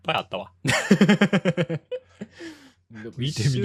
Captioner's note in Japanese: 笑い